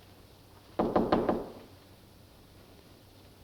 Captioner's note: knocking